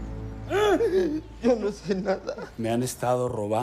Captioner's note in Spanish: Sollozos